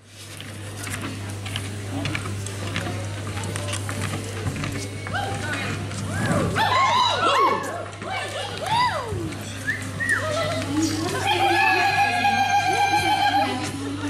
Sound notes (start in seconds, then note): 4.4 general cheers; 11.0 more cheers and....other noises